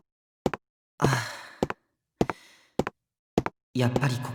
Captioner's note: sigh